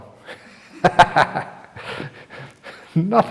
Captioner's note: chuckle